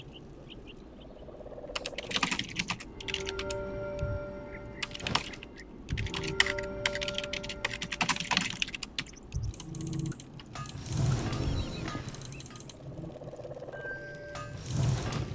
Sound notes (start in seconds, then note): 1.6 typing sounds